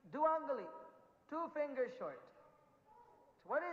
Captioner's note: in Hindi